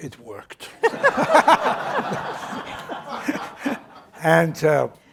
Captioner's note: laughter